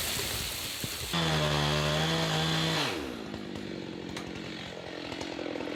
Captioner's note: saw engine rattling